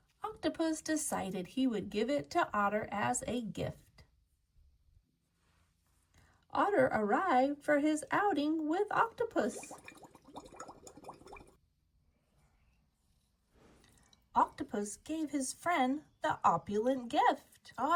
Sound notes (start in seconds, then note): 9.4 water bubbles